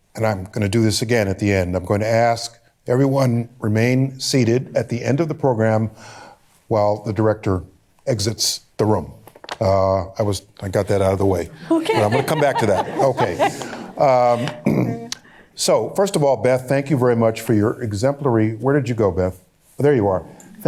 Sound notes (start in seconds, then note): 10.8 laughing; 11.6 laughter; 14.4 clears throat